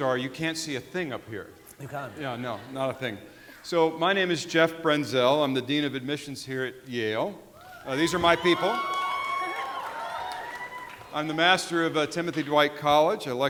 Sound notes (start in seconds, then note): 9.7 audience cheering and applauding